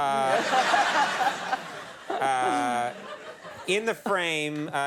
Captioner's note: audience laughing heartily